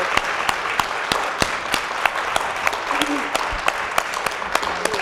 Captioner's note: applause